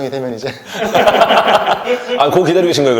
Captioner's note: laughs